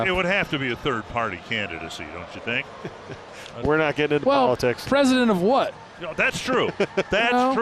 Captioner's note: laughs